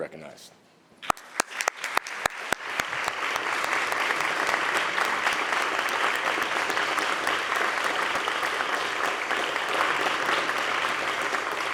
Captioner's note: applause